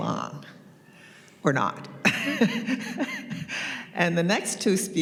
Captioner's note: chuckles